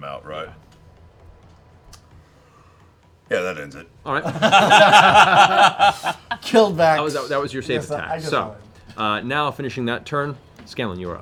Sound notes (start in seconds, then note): 4.2 laughter